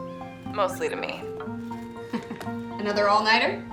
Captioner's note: laughs